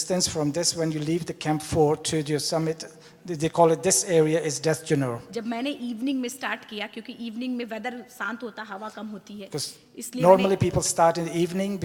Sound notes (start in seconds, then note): 5.4 speaks foreign language